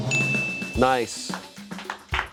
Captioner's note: bell dings; friends clap